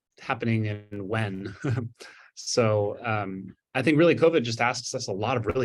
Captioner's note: chuckles